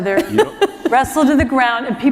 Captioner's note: laughter